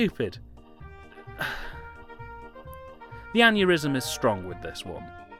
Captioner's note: sigh